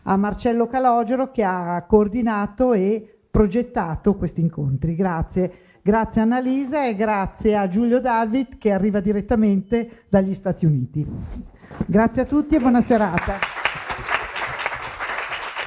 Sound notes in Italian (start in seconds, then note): 13.0 Applauso